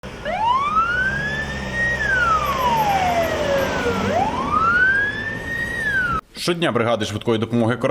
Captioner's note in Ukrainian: звук сирени швидкої допомоги